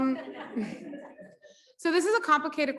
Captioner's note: audience laughs